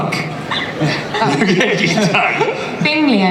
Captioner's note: laughs